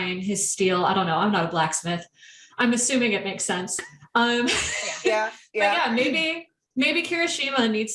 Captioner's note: wheeze